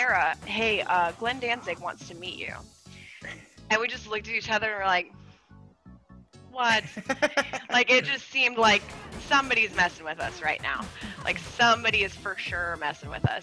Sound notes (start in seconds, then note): 6.6 laugh